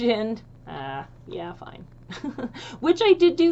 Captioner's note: chuckles